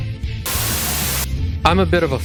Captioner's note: Static